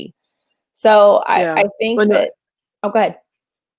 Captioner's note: voice muffled